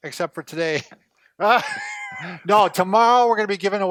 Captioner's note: laughs